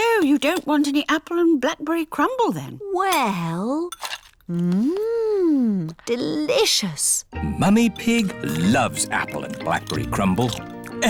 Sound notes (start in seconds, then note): none